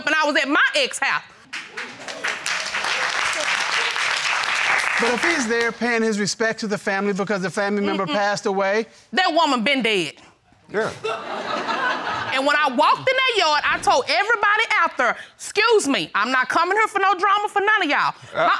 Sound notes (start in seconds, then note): 1.4 audience applauding